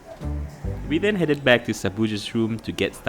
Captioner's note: voiceover